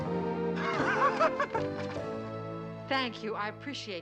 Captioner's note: laughing